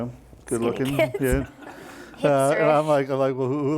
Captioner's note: laughing